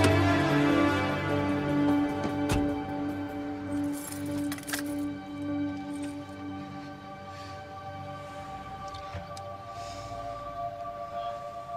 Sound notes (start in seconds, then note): 0.0 upbeat instrumental music; 2.1 car door closes; 3.6 keys rattles; 5.7 soft instrumental music